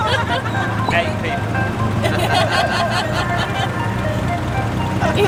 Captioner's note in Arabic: ضحك